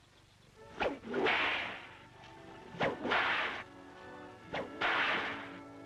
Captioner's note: cracking whip